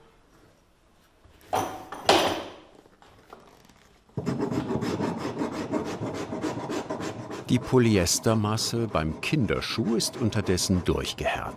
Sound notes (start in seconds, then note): 1.5 clattering